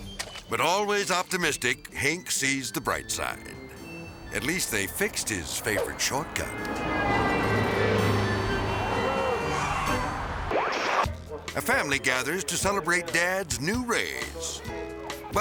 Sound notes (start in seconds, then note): 6.8 traffic honking; 6.8 whimsical music; 10.3 transition whooping